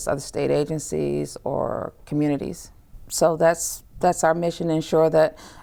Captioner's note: none